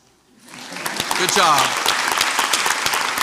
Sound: crowd applauds

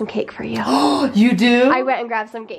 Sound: gasps

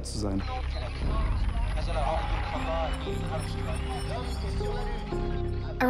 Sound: indistinct chatter

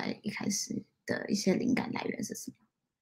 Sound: speaks mandarin

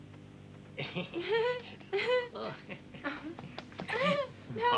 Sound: pair laughing

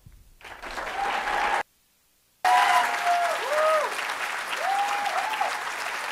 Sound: audience applauding and cheering

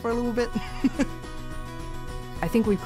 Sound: laughter

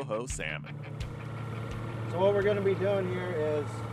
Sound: boat engine running

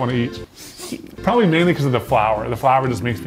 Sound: sniffs

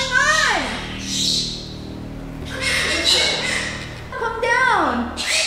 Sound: bird squawking; bird squawking

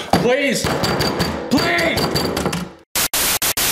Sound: pounding; static

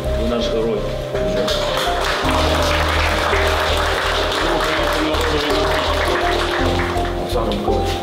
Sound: applause

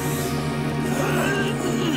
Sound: sniffs; gagging

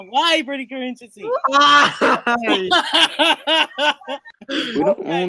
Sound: really laugh

